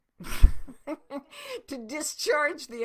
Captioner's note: laughing